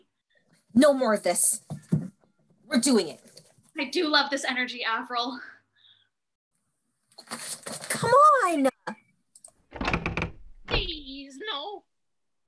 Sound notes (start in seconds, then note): 9.6 cabin door creaks